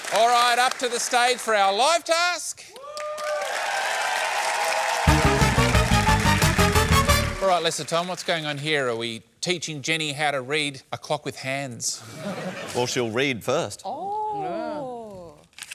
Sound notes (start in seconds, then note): 2.7 cheering and applause; 12.0 laughter